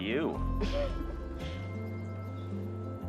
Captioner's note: Joe laughing